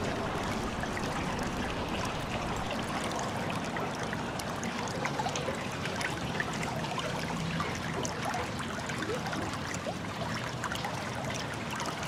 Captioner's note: water running